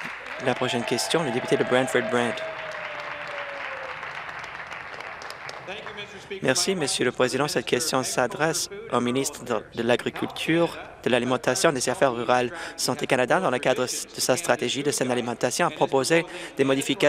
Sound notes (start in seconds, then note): 0.0 applause; 4.3 applause and cheering